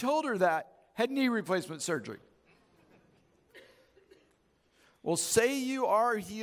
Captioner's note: audience chuckles